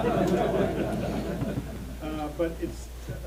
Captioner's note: audience laughs